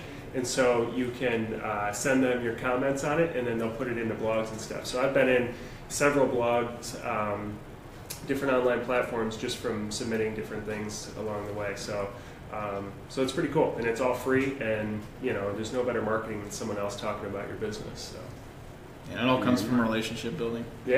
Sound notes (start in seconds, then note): none